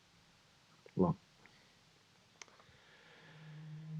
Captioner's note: sighs